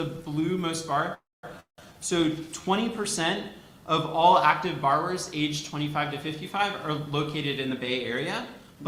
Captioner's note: none